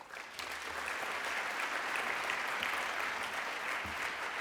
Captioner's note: applause